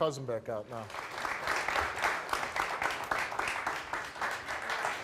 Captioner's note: audience applauds